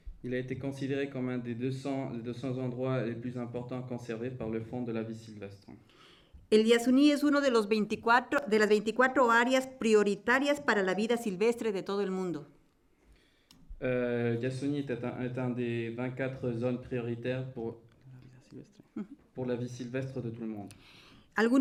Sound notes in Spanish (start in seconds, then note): 6.2 Español; 21.1 Español